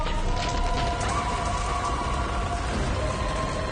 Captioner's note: screaming